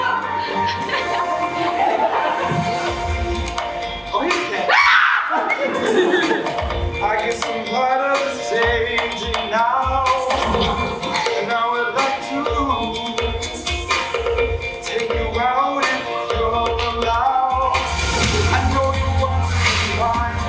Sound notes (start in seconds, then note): 0.0 audience cheers; 4.2 audience laughs; 4.7 screams